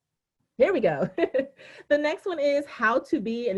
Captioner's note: laughing